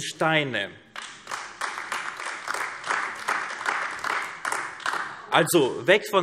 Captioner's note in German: Beifall AfD